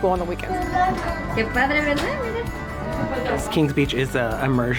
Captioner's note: class chattering